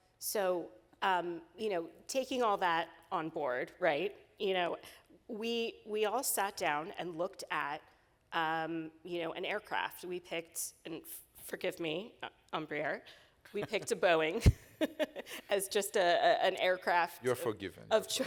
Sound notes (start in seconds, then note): 14.9 laughing